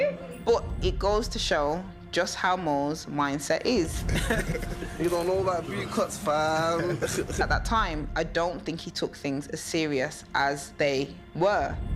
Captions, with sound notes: But it goes to show just how Mowgs' mindset is. (laughing) - He don't know about B-cuts, fam! - At that time, I don't think he took things as serious as they were.